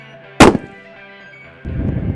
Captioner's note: gun Shot